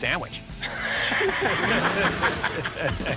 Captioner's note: laughter; engine revs